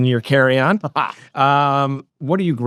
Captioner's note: laughs